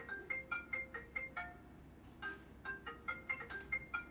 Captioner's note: phone rings